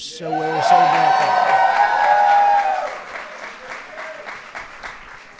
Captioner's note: applause